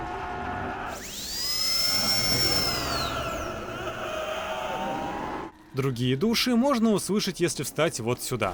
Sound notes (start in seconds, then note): 0.9 buzzing sounds of dentist's drill